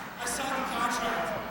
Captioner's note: crowd cheering